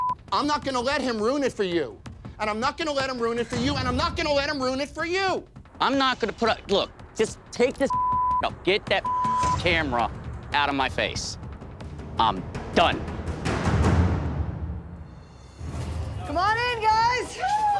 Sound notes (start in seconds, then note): 0.0 beep; 7.8 beep